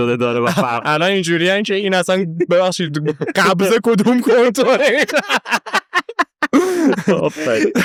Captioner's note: laughs